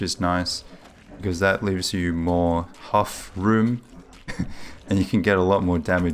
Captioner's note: chuckles